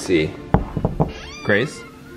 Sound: door knocking

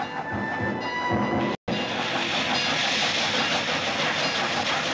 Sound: bell Ringing

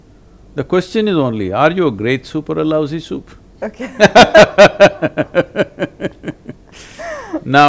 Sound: both laugh

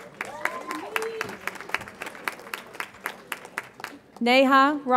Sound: audience applauds

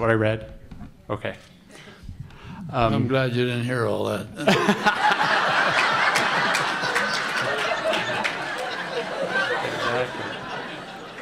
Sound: big laughter

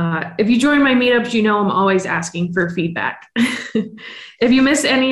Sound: chuckles

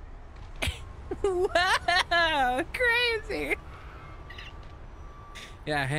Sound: laughing

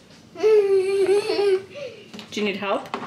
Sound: baby laughs

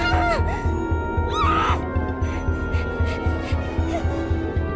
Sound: Pomni groans

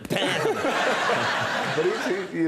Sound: crowd laughing

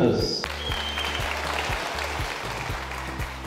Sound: applause

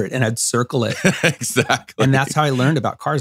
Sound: laughs

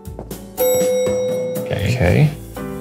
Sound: bright music; elevator dings

